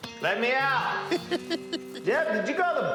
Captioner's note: laughs